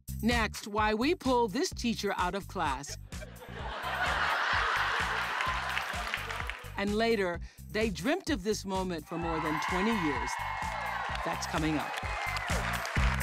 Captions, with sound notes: NEXT, WHY WE PULL THIS TEACHER OUT OF CLASS. [ LAUGHTER ] AND LATER, THEY DREAMED OF THIS MOMENT FOR MORE THAN 20 YEARS. THAT'S COMING UP. [ APPLAUSE ]